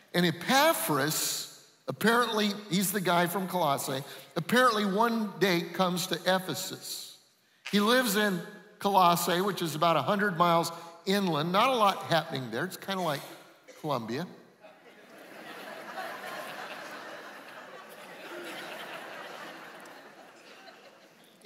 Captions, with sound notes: And Epaphras, apparently, he's the guy from Colossae, apparently one day comes to Ephesus. He lives in Colossae which is about 100 miles inland. Not a lot happening there. It's kind of like Columbia. [laughing]